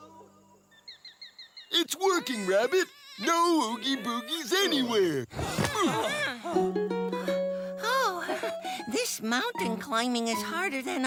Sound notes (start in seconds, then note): 4.1 grunts; 6.3 panting